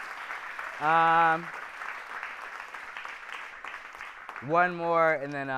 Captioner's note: applause